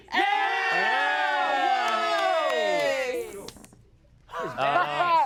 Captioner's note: everyone cheers